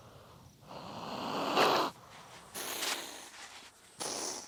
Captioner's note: hisses